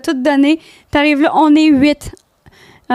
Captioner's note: in french